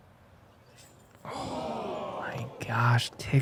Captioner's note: gasp